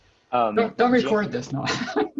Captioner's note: laughs